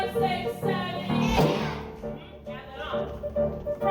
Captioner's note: upbeat piano music; kids shout